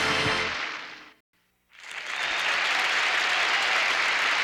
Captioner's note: cheering